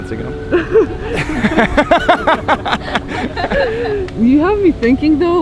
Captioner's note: both laughing